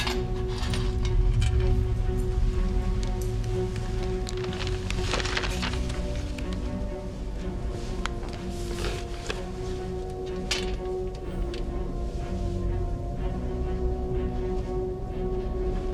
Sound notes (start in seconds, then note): 0.3 tense music continues; 3.9 paper fluttering; 10.1 tense music